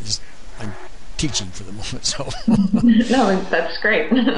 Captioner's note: laughs